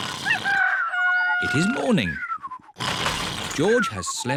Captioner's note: cockerel crows